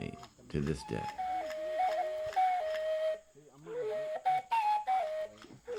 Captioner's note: villagers speaking Yanomami